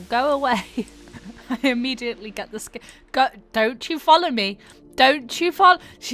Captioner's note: laughing